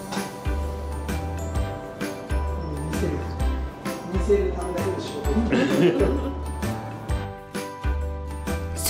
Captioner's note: laughs